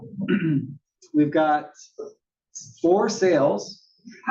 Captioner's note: cough